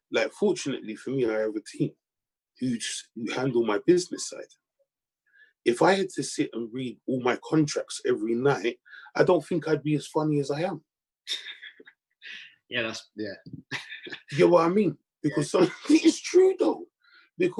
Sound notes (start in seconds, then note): 13.6 chuckles; 13.7 laughs